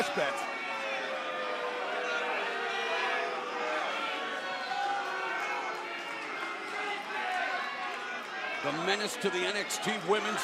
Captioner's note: crowd cheering